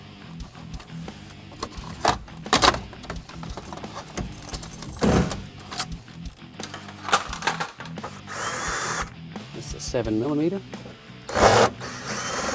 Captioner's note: power tool